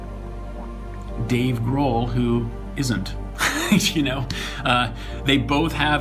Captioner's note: laughs